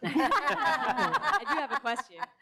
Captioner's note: all laugh